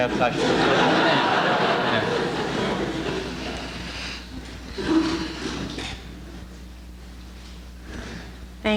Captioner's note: laughter